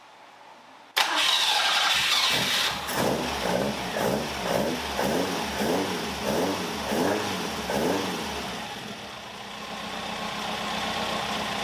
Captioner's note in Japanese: エンジン音